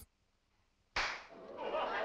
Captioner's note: clap; laughter